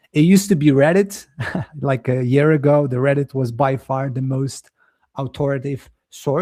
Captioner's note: chuckles